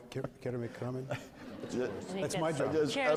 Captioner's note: multiple voices